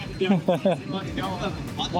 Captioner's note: laughing